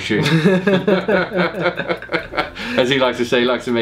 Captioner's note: laughing